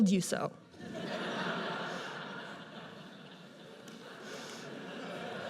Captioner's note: audience laughs